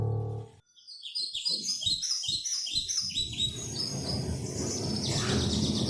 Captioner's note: birds chirping